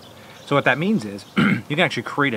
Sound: coughs

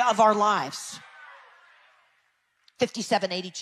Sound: people cheering

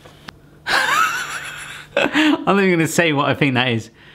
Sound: laughing

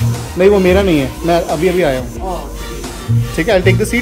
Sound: random conversation going on

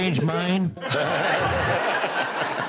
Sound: laughter

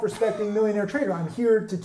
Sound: chuckles

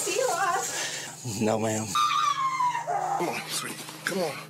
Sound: screaming

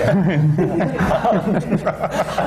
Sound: laughter

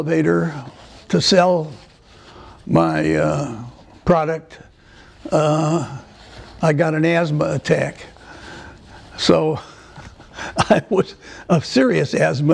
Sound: laughter

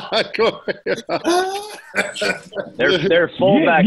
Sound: laughter

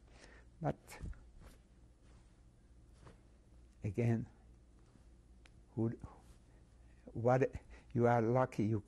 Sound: pauses for 3 seconds

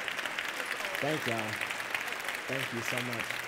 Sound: applause

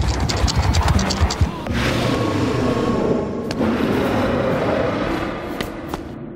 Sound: scorpion scurries; scorpion roars

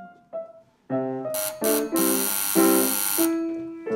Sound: playing continues; buzzer

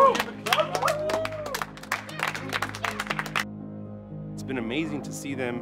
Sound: audience applauding

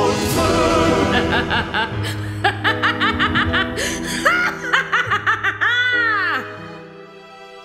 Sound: evil laughter

